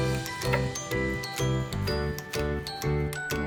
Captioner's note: bread crunching